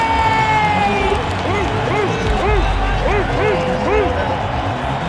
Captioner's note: barks